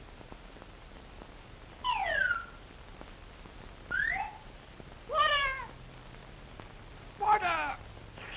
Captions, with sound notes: (slide whistle blowing) - Water! - Water!